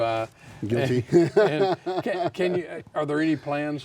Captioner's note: laughs